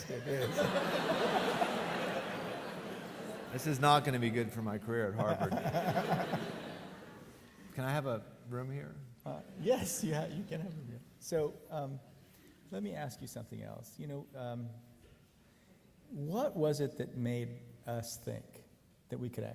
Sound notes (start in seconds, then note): 0.0 audience laughing; 5.2 audience laughing; 5.3 laughs